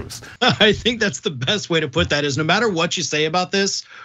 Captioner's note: laugh